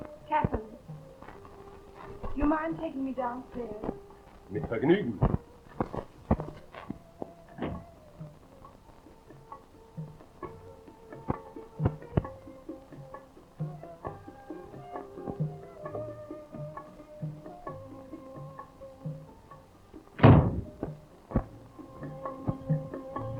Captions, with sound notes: - Captain, do you mind taking me downstairs? (Karl speaking in foreign language) (gentle music) (door thudding)